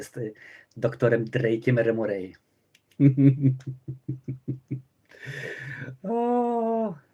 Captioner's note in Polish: śmiech